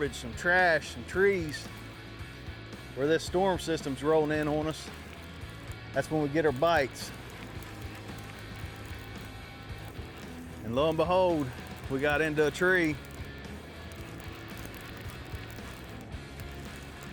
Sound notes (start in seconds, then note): 10.1 optimistic music; 12.7 fishing rod reeling